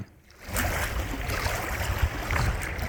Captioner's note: sound of water lapping at the lake edge